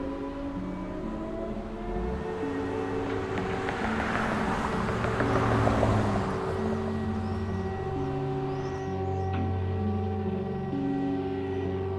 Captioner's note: a siren sounds in the background